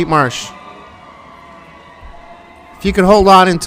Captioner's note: distant cheering